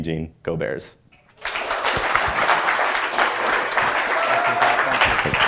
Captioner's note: applause